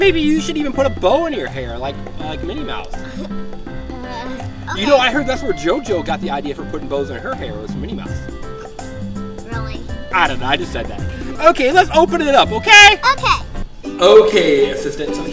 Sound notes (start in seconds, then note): 3.0 giggles